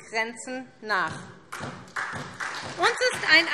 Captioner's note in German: Beifall SPD